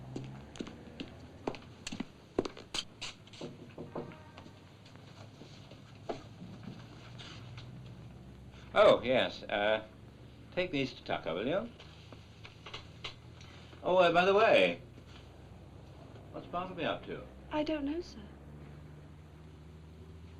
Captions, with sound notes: (footsteps) (knocking) Oh, yes....um... Take these to Tucker, will you? Oh, and by the way... What's Bartleby up to? - I don't know, sir.